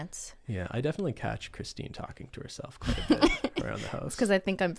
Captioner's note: laughs